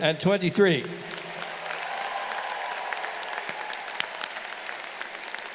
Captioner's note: audience applauding